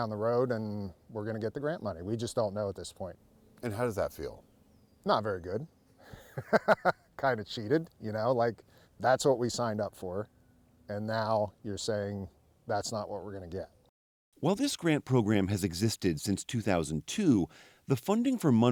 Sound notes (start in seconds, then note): 6.0 laughter